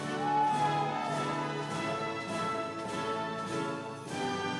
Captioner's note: audience cheering